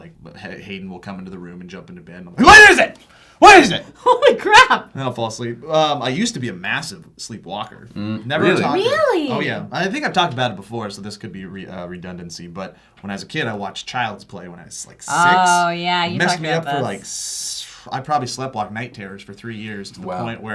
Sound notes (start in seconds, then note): none